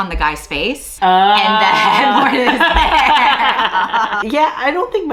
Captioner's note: laughs